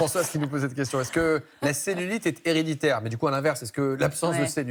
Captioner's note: laughter